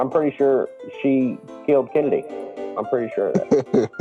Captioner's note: laughs